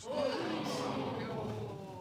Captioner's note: audience exclaiming